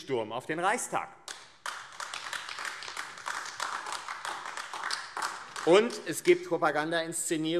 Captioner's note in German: Beifall AfD